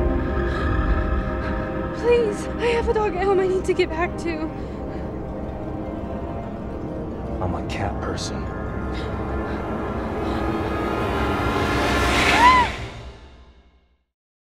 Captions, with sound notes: [scared breathing] Please. I have a dog at home I need to get back to. [music intensifies] - I'm a cat person. [scared breathing] [hisses] [Emily screams]